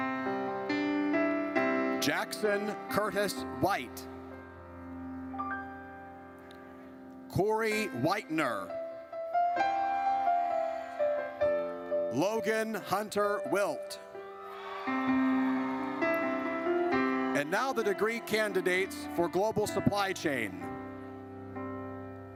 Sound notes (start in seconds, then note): 4.6 gentle music; 9.9 audience cheers; 14.2 audience cheers